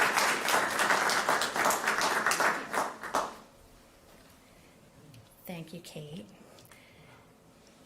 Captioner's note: applause